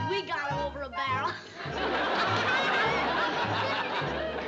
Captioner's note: laughter